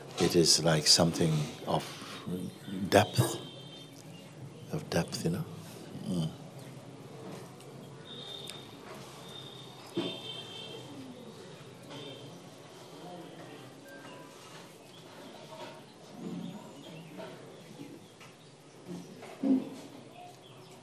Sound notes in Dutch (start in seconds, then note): 6.4 stilte